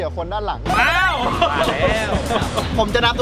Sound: laughs

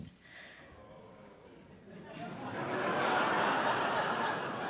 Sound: laughter

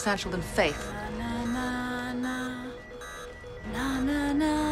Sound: monitors beeping

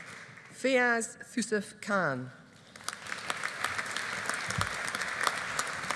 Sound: audience applauding

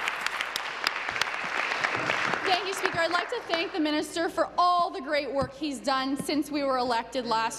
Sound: applause

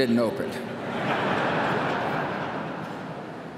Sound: laughter

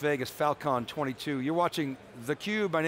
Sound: crowd chatters

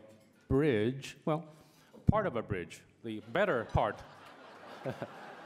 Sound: laughter

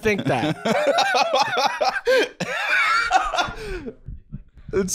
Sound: laughing

